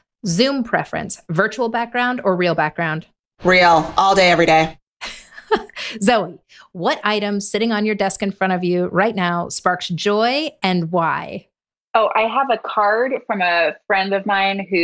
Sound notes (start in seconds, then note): 5.0 laughs